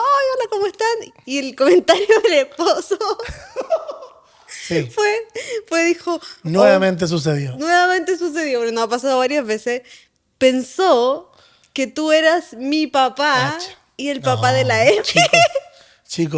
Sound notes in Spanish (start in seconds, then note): 2.8 risas